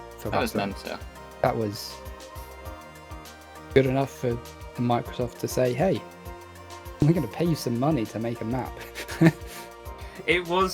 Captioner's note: laughter